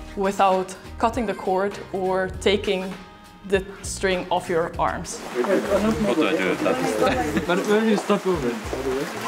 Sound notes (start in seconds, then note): 5.2 all chattering and laughing